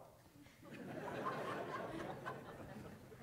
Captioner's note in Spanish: risas